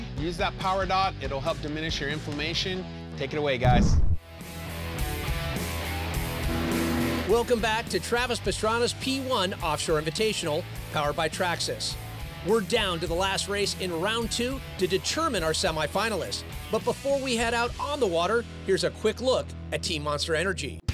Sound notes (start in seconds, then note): 3.6 whoosh; 6.3 jetboat sounds